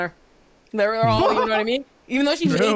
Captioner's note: laughs